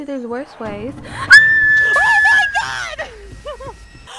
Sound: screaming

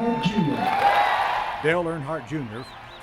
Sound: cheering and applause

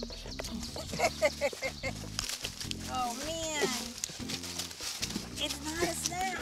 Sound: laughing

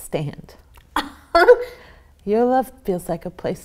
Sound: child laughs

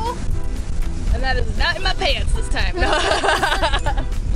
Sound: laughter

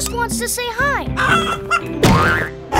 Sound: clucking; grunting

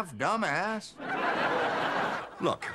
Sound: audience laughing

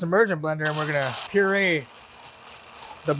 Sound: blender grinding

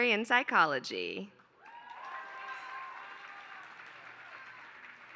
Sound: applause

